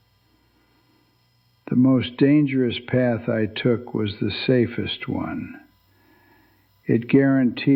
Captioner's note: whispers